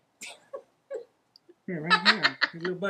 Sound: laughing

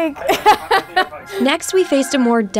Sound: laughing

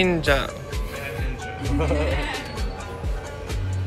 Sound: laugh

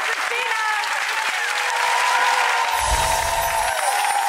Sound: audience applauds

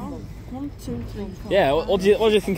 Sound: none

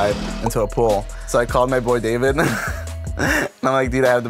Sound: laughs

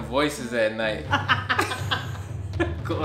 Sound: laughs

